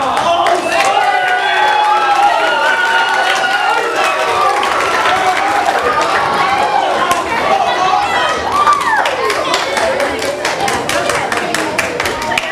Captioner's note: audience applause